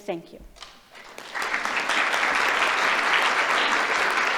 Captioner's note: applause